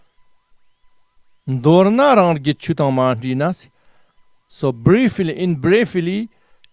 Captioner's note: tibetan